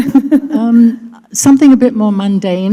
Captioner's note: laughter